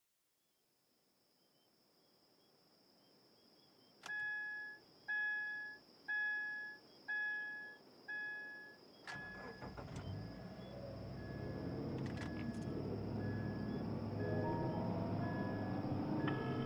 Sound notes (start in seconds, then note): 4.1 car beeping; 14.0 ominous music